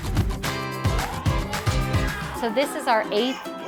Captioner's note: students shouting